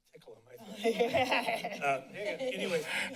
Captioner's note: laughing